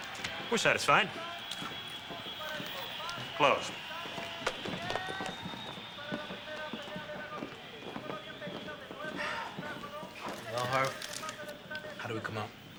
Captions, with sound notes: We're satisfied. Closed. (whistling, shouting and man speaking Spanish on TV) (Dominguez sighs) Well, Harve, how did we come out?